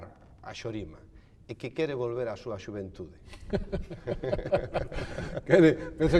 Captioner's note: laughs